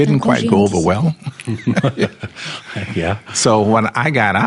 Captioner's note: laughs